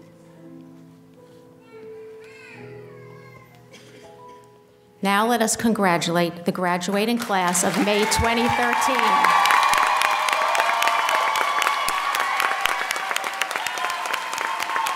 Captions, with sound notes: Now let us congratulate the graduating class of May 2013. (audience applauding and cheering)